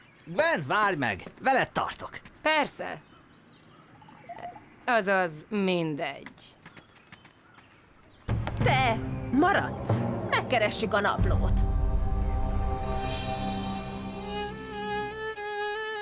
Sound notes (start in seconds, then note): none